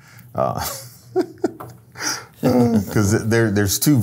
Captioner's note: laughs